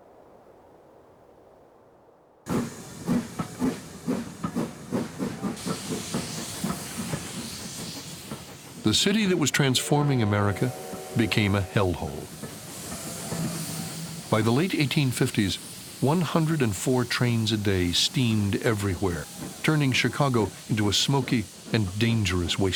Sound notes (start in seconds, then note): 1.6 steam engine chugging